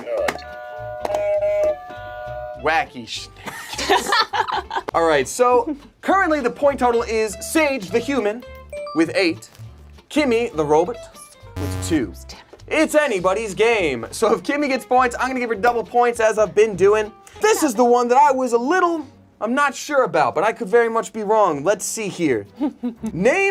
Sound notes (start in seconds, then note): 0.8 buzzer rings; 3.3 whispers; 3.5 group laughs